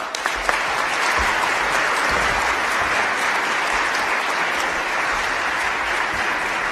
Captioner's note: applause